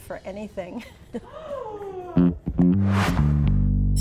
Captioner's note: woman gasps